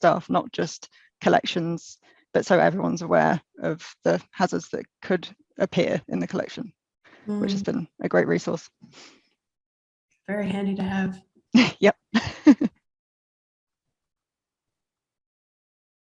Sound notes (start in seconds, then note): 12.2 laughs